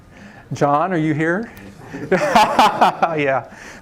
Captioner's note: laughter